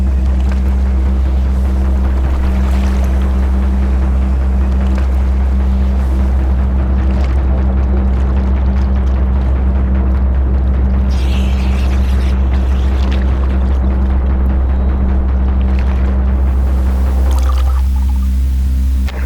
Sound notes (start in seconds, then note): 11.0 water plopping